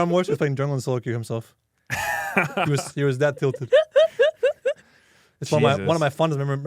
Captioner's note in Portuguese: risos